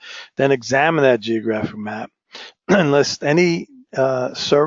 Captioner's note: cough